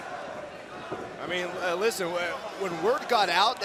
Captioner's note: crowd cheering